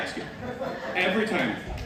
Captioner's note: laughter